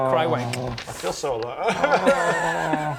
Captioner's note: sobs